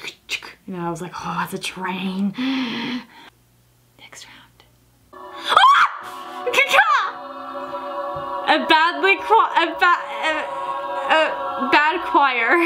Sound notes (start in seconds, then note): 2.4 inhales; 5.1 note swells